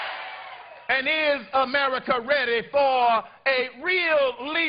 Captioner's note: cheers and applause